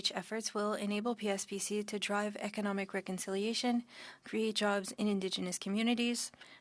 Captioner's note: speaking French